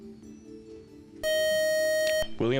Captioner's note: beep